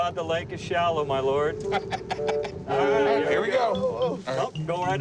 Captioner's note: laughs